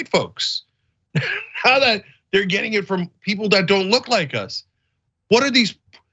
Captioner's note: laugh